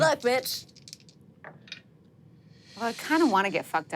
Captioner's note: dice rolling